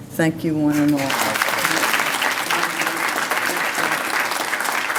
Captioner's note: applause